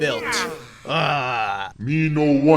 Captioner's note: groaning